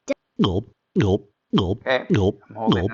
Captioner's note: drink gulping